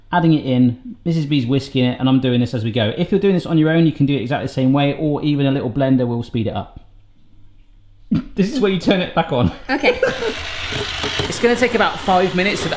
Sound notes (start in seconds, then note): 9.4 laughs; 9.7 blender whirs